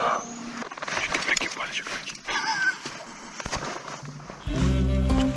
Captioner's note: laughter; whispering